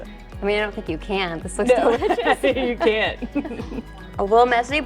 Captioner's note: laughs